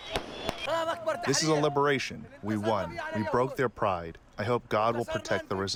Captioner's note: through translator